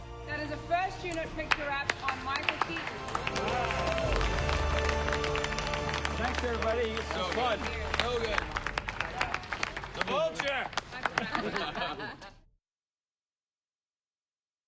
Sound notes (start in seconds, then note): 10.9 all chuckling